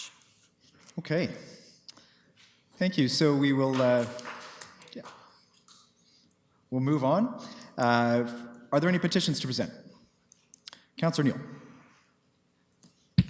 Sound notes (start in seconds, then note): 3.8 applause